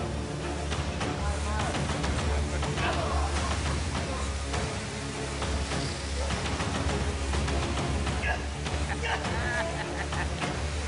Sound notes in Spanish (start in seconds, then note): 2.7 Exclamaciones de protesta